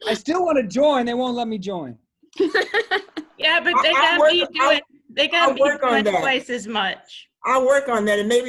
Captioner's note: laughter